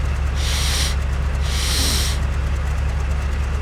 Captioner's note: sniffs in slav